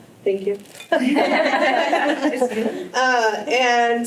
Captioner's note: laughter